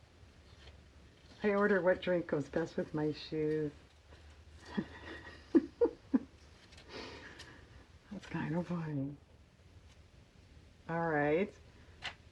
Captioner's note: laughs